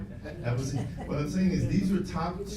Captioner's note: laughs